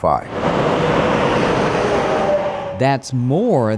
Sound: traffic

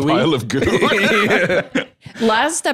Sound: both laugh

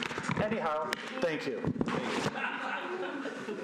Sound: laughter

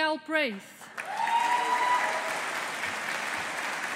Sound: audience applauding

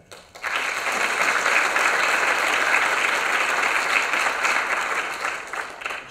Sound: applause

